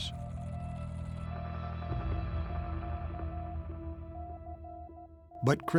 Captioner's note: morse code beeping